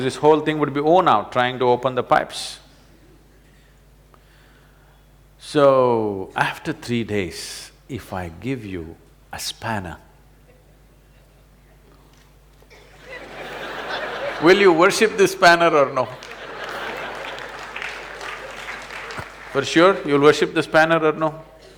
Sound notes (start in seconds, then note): 16.3 laughter/Applause